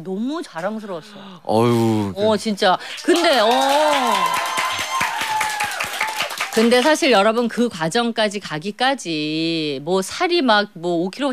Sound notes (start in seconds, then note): 6.0 clap